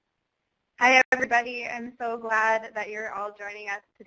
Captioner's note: voiceover